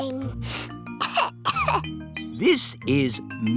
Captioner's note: sniffs and coughs